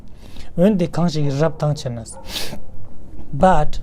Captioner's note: tibetan